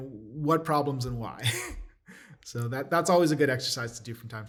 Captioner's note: laughter